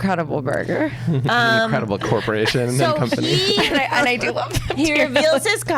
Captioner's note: laughs